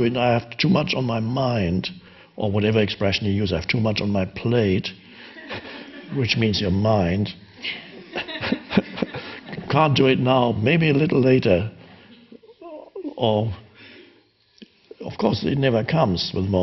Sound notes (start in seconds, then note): 7.6 audience and Eckhart laughing in unison